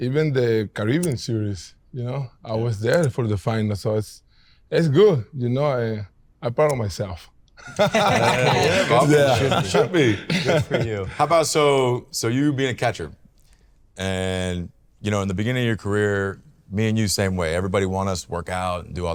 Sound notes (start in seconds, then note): 7.6 all laughing